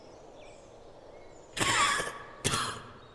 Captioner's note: coughs